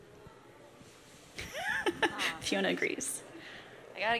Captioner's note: laughs